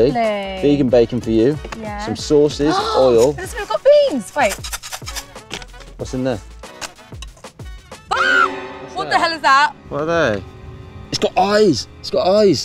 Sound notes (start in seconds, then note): 8.0 screams